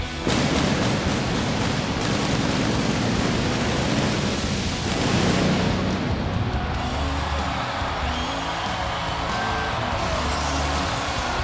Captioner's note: crowd cheering